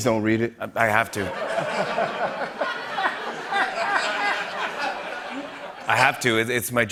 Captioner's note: laughter